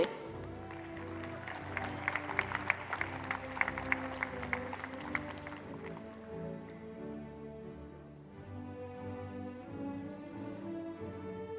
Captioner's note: applause